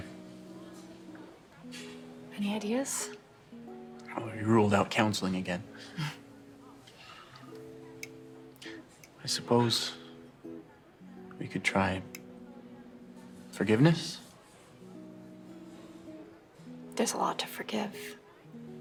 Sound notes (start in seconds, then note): 6.3 Rachel chuckles